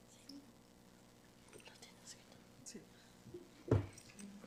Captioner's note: group whispering